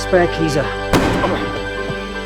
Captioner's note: gunshot